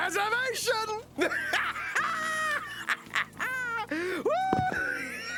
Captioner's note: cackling